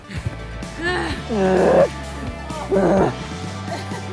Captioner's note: grunts